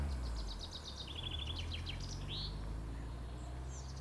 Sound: birds chirping

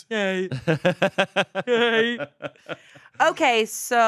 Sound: laughing

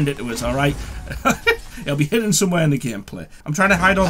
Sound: laughs

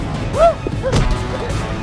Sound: smack

